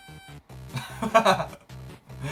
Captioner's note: laughs